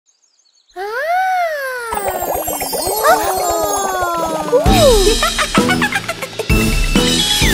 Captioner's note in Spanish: Risas